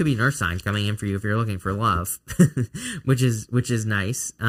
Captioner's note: chuckles